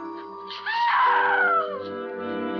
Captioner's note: lady haloran screams